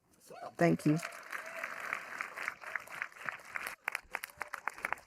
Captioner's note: audience applauding